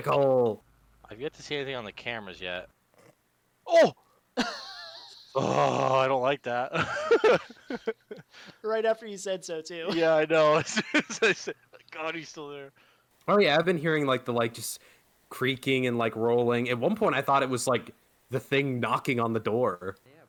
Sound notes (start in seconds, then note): 4.4 laughts; 6.8 nervous laughter